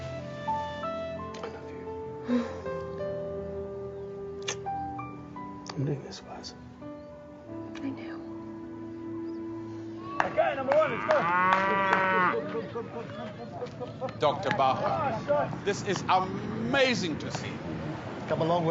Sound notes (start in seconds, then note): 2.8 chuckles and kiss smacking; 11.4 claps; 12.0 cows lowing